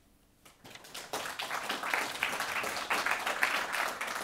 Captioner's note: audience applauds